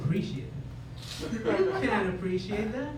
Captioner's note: laughter